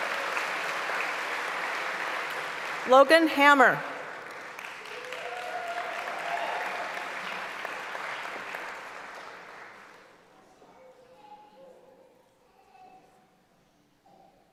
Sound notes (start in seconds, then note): 0.2 applause; 6.7 applause and cheering